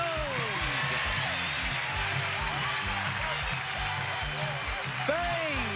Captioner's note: cheers and applause